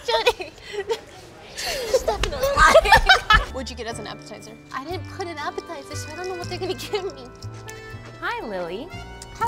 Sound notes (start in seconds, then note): 1.5 laughing